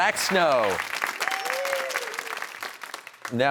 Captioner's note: cheers and applause